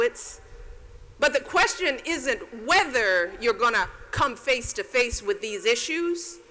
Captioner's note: none